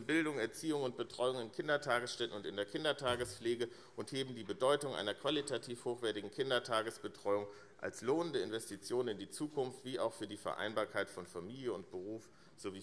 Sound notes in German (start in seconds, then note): none